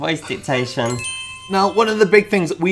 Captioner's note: bells dinging